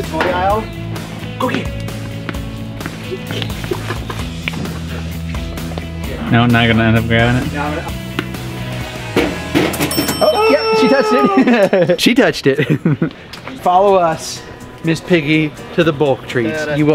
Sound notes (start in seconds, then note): 3.7 ball thudding; 7.9 ball thudding; 8.2 cash register dinging